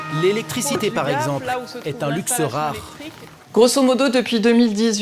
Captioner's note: French spoken audio